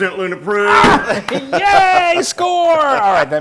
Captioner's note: laugh